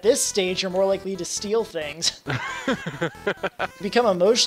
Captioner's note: laughs